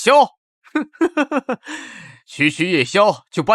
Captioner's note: chuckle